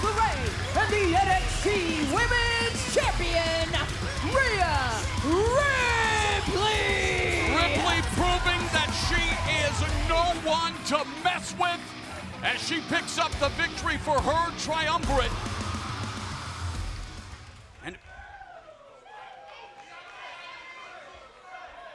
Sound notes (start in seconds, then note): 18.2 scattered cheering